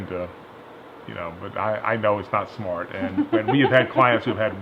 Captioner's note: laughs